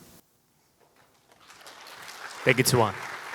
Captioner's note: applause